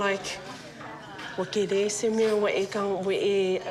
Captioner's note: speaks samoan